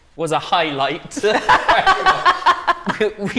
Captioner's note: laughter